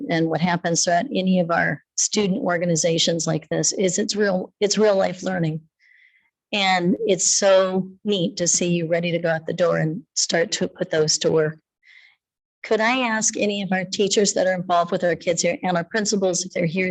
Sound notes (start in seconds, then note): none